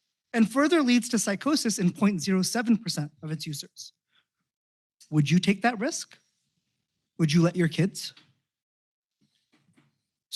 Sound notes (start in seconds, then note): none